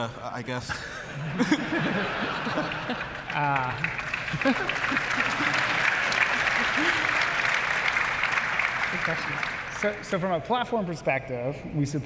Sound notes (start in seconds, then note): 0.8 laughter; 4.2 applause